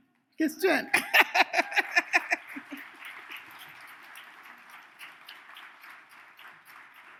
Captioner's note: laughs; audience cheers